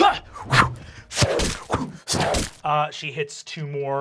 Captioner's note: coughing; whooshing; splatting